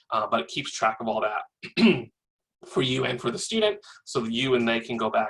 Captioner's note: cough